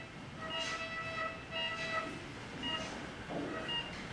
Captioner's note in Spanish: Bip del monitor